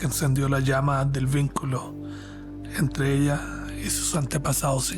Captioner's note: narrator speaking Spanish